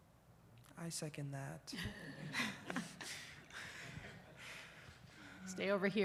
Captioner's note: audience chuckles